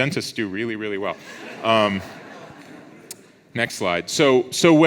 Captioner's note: audience laughs